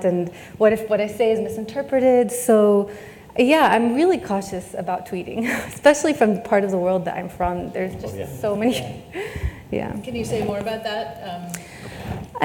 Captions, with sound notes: and what if what I say is misinterpreted, so yeah, I'm really cautious about tweeting, especially from the part of the world that I'm from, there's just so many (laughs), yeah. - Can you say more about that?